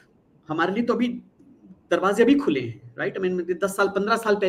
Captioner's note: non-english speech